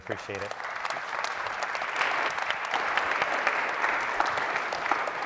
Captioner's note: applause